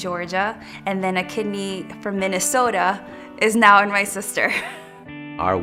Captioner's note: laughs